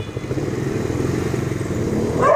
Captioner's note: barking